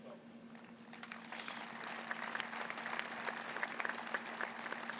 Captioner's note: applause